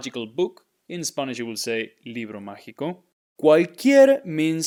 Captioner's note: speaking in Spanish